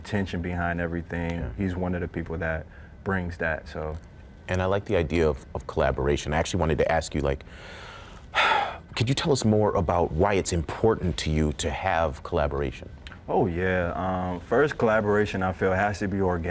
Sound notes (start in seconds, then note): 8.3 sighing